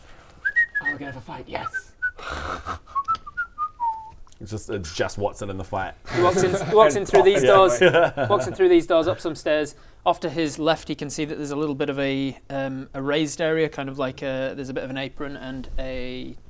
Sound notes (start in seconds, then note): 0.4 whistling; 2.2 snickering